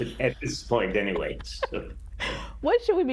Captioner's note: laughing